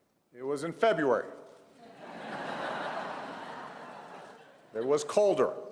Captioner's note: laughter